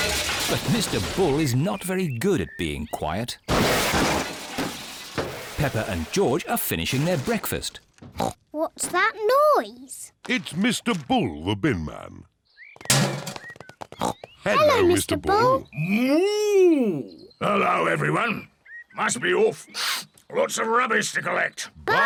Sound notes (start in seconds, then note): 3.5 clattering; 8.2 snorts; 12.9 bin clangs; 13.5 snorts